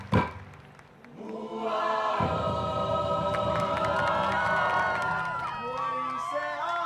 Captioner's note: cheering, applause